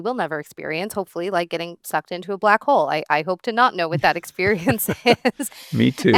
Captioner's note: laughs